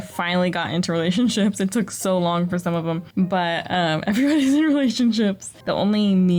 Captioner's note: laughter